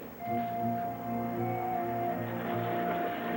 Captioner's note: none